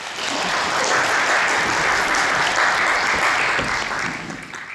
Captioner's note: audience applauds